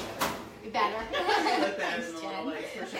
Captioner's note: laughing